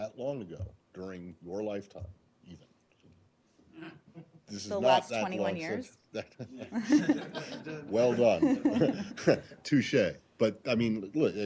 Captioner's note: laughter